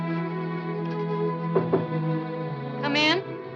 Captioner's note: knocking at door